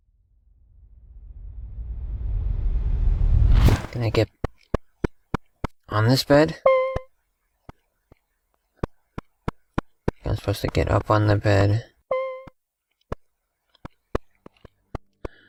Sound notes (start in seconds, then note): 6.6 beeping sound; 12.1 beeping sound